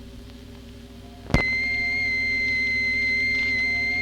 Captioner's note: beeping